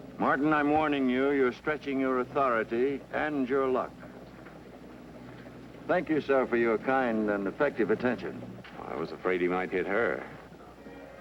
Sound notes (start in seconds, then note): none